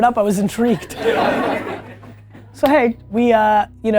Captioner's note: team laughing